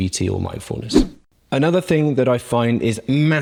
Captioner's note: swoosh